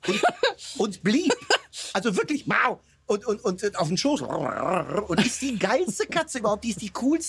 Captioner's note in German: schnurrt